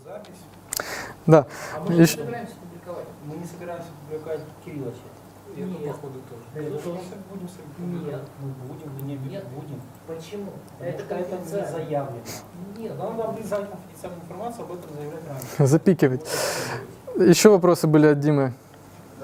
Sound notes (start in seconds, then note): 1.6 discussion in the audience